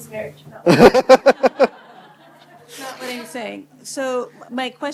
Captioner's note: laughter